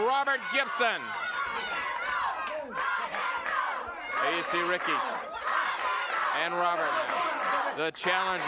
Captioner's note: applause